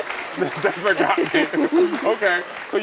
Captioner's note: audience applauding